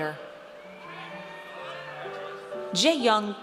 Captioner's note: audience cheers